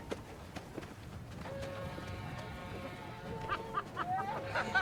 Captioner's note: train whistle sounds